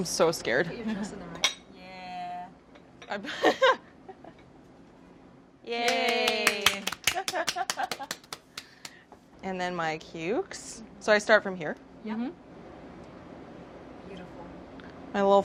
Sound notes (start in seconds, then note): 3.2 laughter; 5.8 cheers and clapping